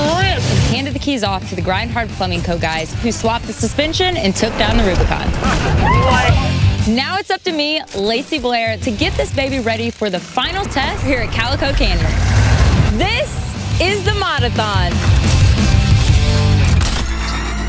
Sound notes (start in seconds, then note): 5.4 all exclaim; 14.9 dramatic music